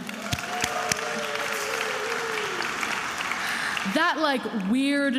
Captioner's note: attendees applauding and cheering